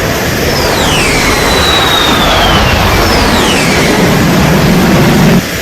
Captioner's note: jet plane engine whistling